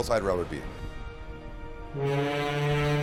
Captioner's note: boat horn blows